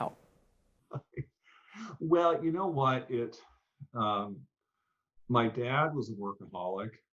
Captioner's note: chuckles